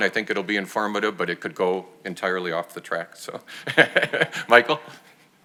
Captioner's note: chuckles